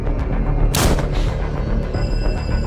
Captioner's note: gunshot